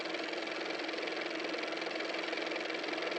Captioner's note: car motor